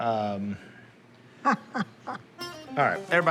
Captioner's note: laughs